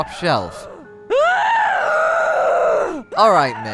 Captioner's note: The Witch starts to scream even louder